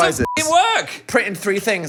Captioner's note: beep